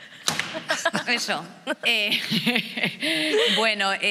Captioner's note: laughs